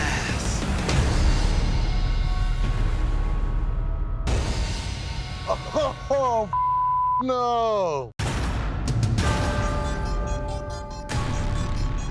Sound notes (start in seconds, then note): 0.0 dramatic music; 6.5 beep; 8.2 dramatic music